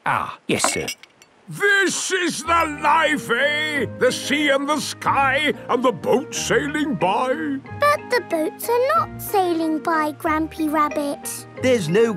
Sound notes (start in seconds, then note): none